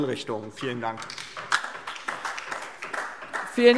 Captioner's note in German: Beifall DIE LINKE